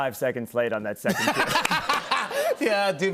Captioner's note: laughter